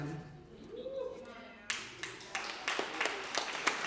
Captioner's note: applause